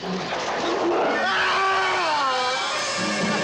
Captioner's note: screaming; dramatic orchestral music